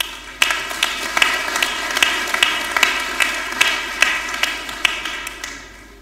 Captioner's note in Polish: oklaski